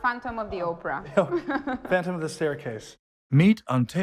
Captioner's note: laughing